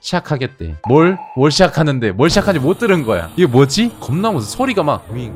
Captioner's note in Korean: 위이잉